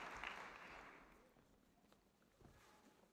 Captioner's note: applause